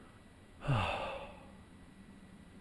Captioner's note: sighs